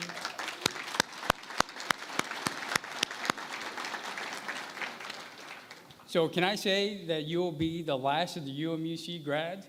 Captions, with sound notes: [ Applause ] So, can I say that you will be the last of the UMUC grads?